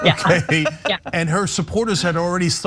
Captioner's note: laugh